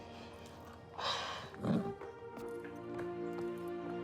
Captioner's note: Debi sighs